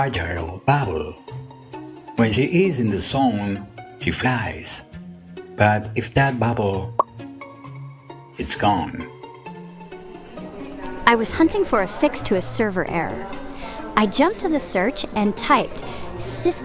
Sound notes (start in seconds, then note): 9.7 pops